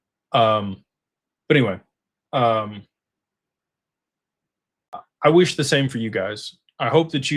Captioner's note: clears throat